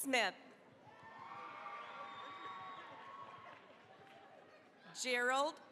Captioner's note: cheering, applause